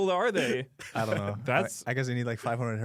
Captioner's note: laughs